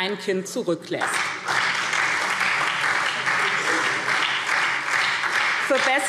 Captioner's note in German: Beifall SPD